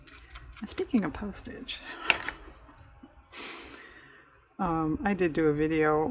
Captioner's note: laughs